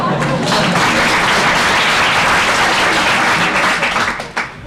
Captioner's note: applause